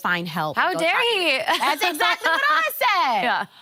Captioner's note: laughs